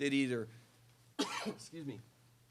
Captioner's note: cough